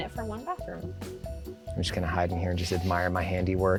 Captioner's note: pat